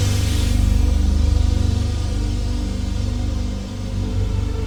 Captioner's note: engine hissing